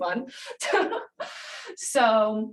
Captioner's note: laughs